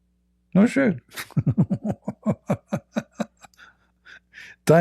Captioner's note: Ketawa